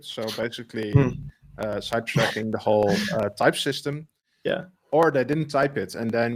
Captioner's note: laughs